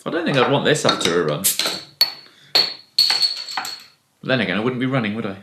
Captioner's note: clanging of top on floor